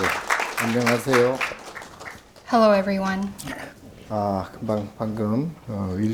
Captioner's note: speaking Korean